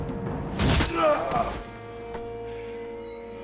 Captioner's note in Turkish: İnilti sesi